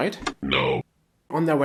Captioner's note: robotic voice